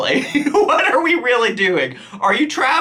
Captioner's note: laughs